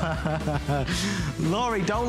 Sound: laughter

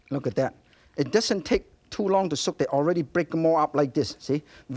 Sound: none

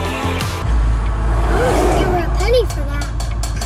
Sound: cars passing

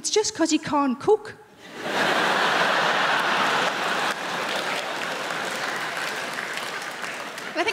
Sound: crowd laughing; crowd clapping

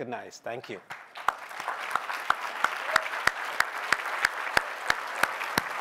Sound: applause

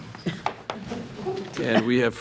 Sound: attendees chuckling

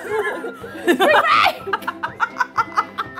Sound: laughing; cheerful music

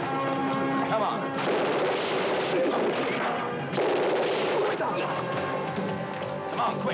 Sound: dramatic music; guns blasting

